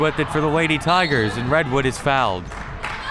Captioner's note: whistle